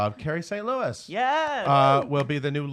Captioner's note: claps